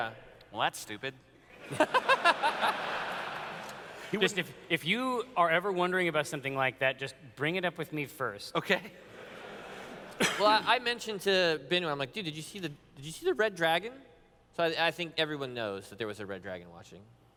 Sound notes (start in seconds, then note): 1.5 laughter